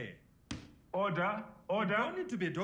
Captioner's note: bangs gavel